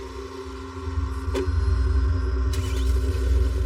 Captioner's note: car door r closes, engine statarts